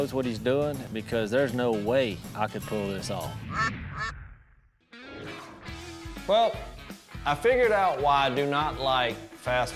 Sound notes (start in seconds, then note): 3.4 duck quacking